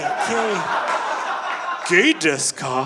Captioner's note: audience laughing